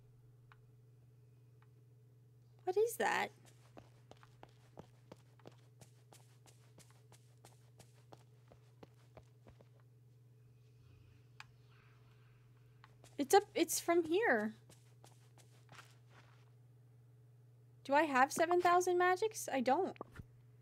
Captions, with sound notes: What is that? [Whispering Grows Louder] It's up- It's from here. Do I have seven thousand magics? I don't.